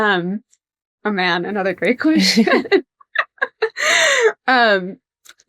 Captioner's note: laughs